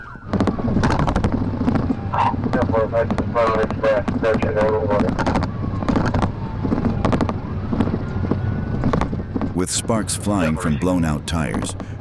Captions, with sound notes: [Radio chatter] With sparks flying from blown-out tires,